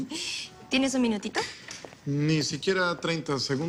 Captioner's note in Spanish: none